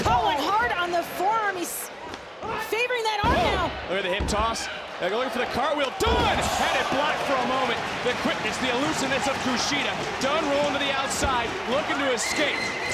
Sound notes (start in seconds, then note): 7.5 audience cheering